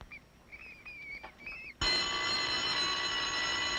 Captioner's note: school bell ringing